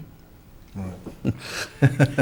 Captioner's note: people laugh